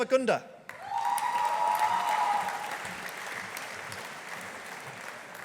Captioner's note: audience applauding